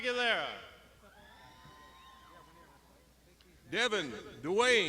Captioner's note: crowd shouting